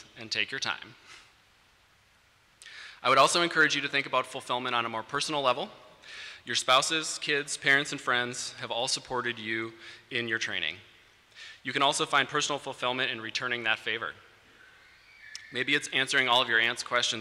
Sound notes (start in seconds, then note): none